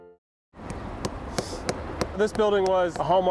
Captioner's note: hammer tapping